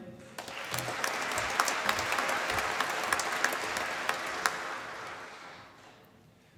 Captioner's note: applause